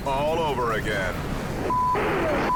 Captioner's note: wind howls